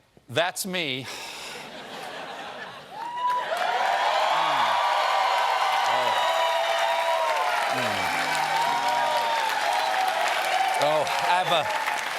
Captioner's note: cheers and applause